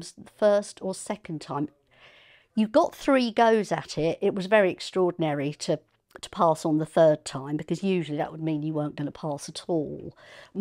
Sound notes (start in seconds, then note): none